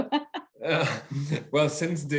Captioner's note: laughing